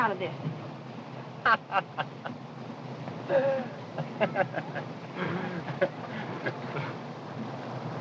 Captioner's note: laughter